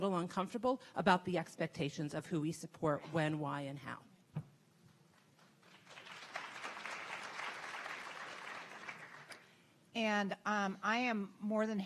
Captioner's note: audience clapping